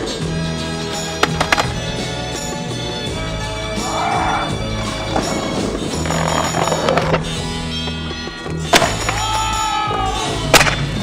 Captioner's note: cheering